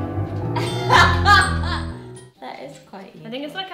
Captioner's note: laughing